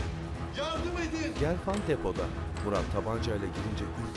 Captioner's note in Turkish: Kapı açılma sesi